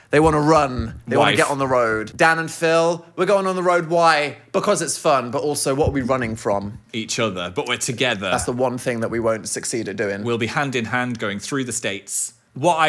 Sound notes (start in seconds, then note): none